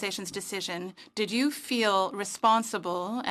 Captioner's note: speaking French